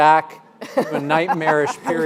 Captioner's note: audience and panelists laughing